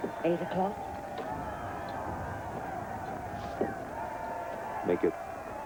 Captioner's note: crowd cheering